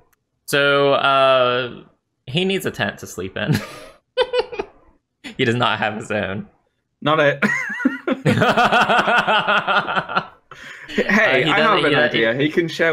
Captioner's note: laughs